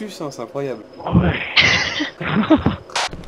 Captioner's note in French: Rire